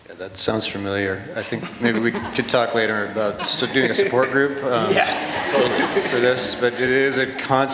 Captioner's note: laughter